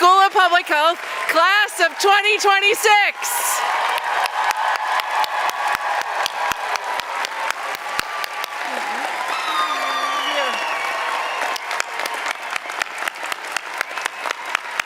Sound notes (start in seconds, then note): 3.7 applause, cheering